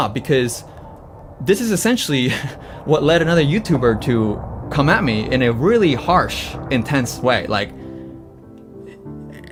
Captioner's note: laughs